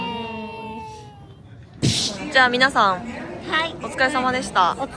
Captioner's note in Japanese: 叫び声; 鼻息